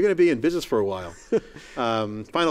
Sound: laughs

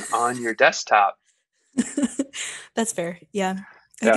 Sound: laughing

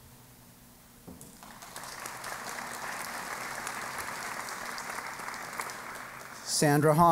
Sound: applause

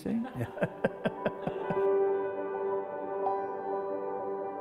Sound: laughs; piano music

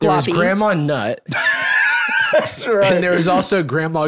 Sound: laughs

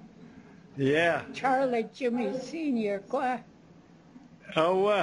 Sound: non-english; non-english speech

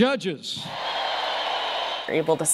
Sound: cheering and applause

